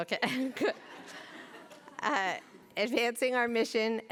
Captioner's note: laughter